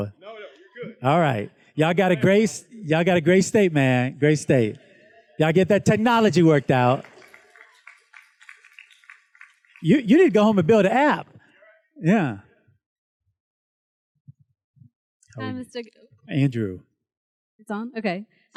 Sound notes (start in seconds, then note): 8.6 students claps